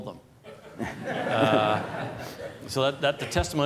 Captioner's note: laughter